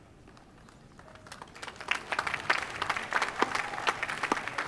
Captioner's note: applause